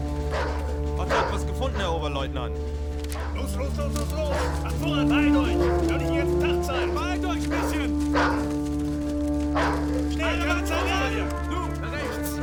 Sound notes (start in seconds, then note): 0.7 speaking german; 9.3 dog barking